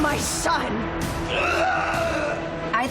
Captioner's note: pained yell